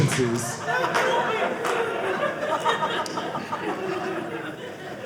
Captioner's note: audience laughing